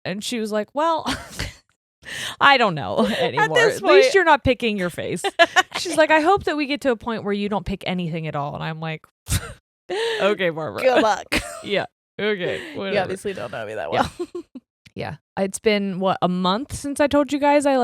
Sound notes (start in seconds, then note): 3.3 chuckles; 10.8 chuckles; 13.9 laughs